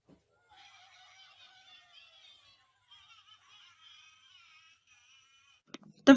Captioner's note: plush makes noise